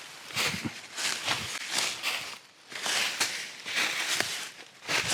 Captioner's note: leaves crunching